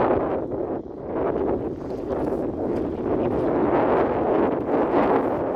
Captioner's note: many wind noises later